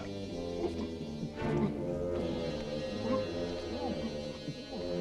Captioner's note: Torente sighs; Torente gulping